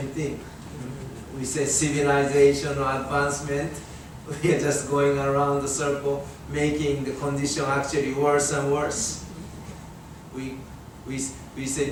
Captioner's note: chuckles